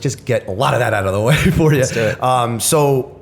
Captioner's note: chuckle